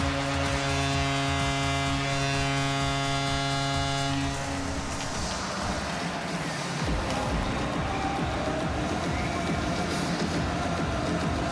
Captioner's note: horn Blowing